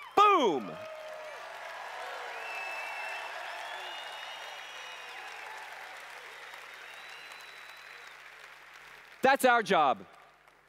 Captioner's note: cheers/Applause